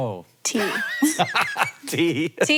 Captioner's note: Hank laughing